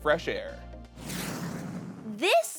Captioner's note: rocket whooshing